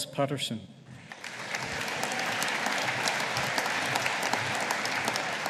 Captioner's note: audience applauding